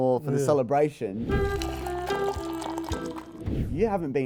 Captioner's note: liquid pouring into cup